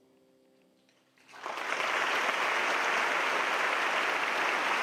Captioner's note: applause